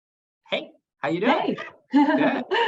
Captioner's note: laughs